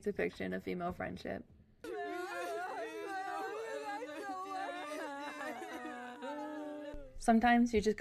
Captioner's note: girls crying